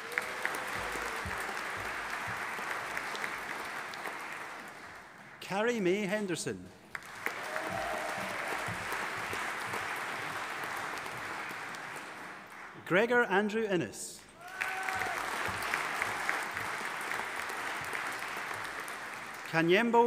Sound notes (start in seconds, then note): 0.0 audience applauding; 6.8 audience applauding; 14.3 audience applauding and cheering